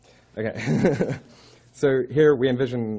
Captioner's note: laughing